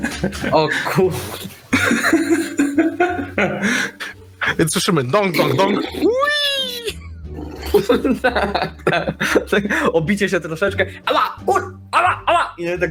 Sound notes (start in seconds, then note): 4.3 bonk bonk bonk; 6.0 wheeeee!